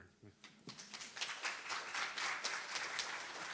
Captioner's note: applause